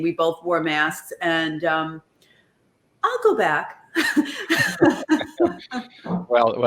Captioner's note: laughs